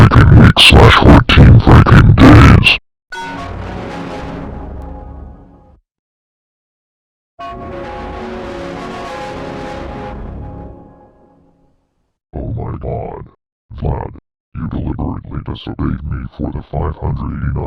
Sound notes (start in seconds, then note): 3.2 Giga Blue Evil Windows XP Shutdown Sound; 7.7 Giga Blue Evil Windows XP Startup Sound